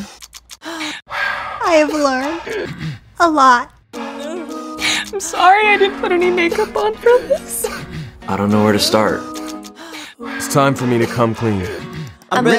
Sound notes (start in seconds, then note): 0.3 all gasping and sighing; 5.4 crying